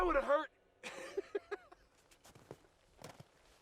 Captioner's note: laughs